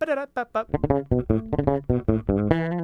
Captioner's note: mimics guitar